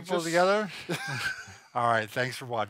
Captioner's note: laughing